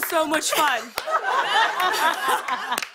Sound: laughter

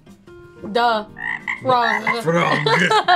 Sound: frog croaking; laughs

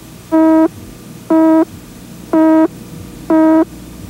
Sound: countdown beep

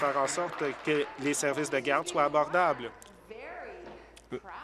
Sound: applause

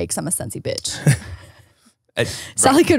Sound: laughs

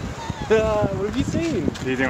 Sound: laughs

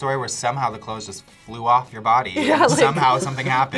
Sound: laughs

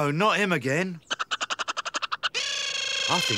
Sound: Boggart gibbering

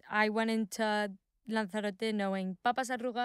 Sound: speaking in foreign language

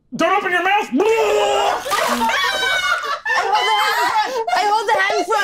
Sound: vomiting sound

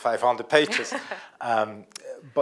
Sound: laughs

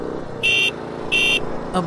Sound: Atsuko Kagari's Motorcycle Horn Honking

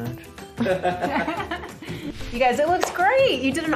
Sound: group laughs

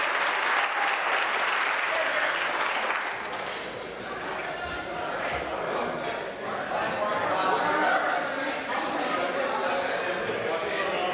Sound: applause

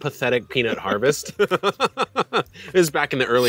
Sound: both laughing

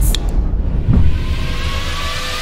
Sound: can opening; dub music

